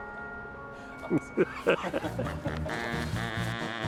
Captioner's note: laughing